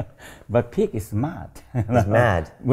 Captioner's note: laughing; laughs